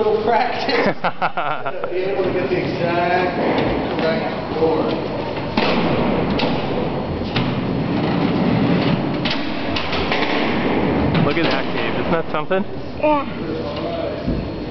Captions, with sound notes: As you can see, it took a little practice! [clunk] look at that Gabe, isn't that something?